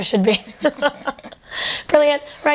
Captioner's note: laughter